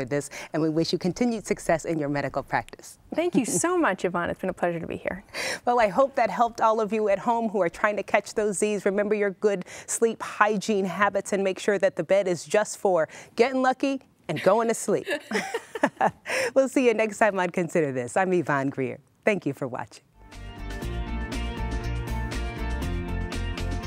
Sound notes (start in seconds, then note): 15.0 laughing; 20.2 uplifting music